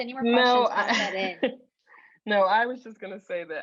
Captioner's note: laughs